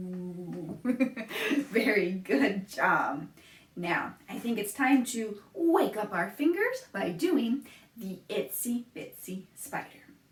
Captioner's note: laughs